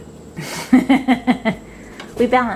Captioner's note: woman laughs